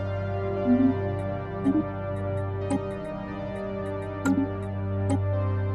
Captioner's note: derp clicking